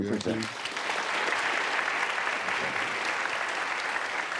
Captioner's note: applause